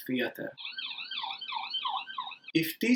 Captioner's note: distant siren noise